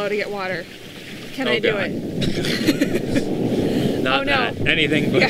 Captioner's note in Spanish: Riendo